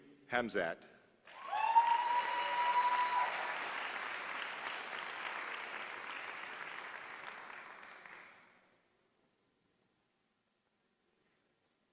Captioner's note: applause